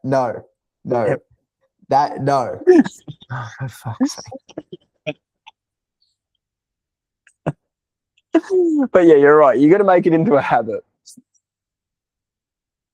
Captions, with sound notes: No, no, that, no. (Laughing) But yeah, you're right. You gotta make it into a habit.